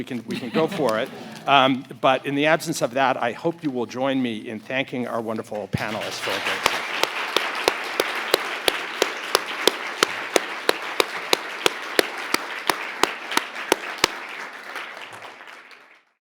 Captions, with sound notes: we can go for it. (audience laughs) But in the absence of that, I hope you will join me in thanking our wonderful panelists. (audience applauds)